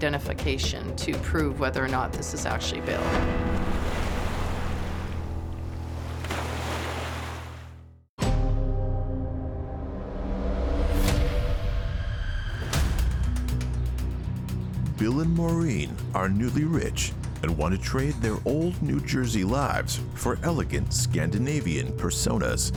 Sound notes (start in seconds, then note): 2.3 waves crashing; 7.8 tense dramatic music